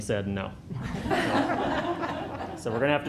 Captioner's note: laughter